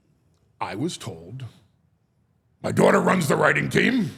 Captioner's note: none